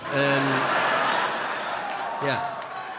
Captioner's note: audience laughing